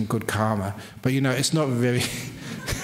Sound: laughter

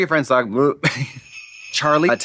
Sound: sleigh bells jingling

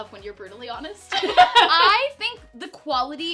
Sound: laughing

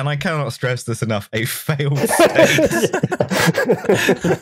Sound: laughs; laughter

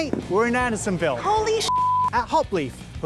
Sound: beep

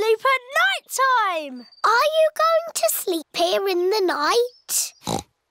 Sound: oinks

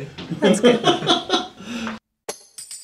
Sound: all laugh

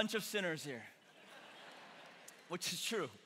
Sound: congregation laughing

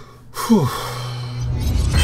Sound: sigh

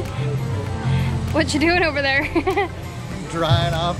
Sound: laughs

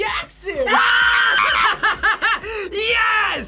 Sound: screams; laughs

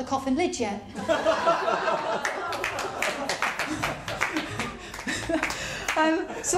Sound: laughter & applause

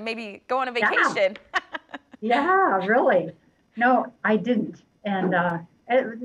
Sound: laughter

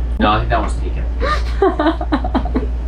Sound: laughs

